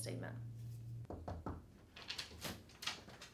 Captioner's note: knocking